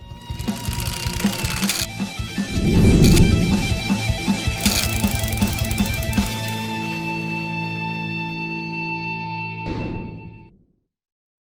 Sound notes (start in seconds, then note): 0.1 cool guitar riff; 2.6 screen whooshing; 4.5 gears clacking